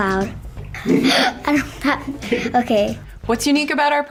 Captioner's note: laughter